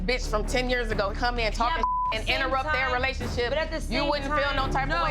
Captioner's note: beep